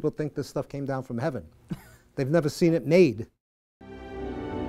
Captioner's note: chuckling; violins begin playing